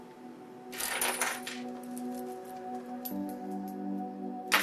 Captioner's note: metal clanking